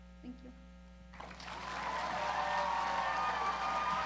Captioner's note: cheering